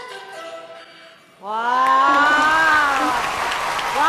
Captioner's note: exclaiming